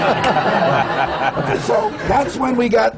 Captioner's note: laughter